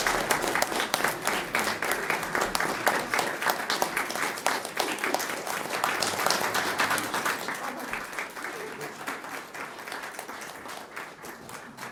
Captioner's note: applause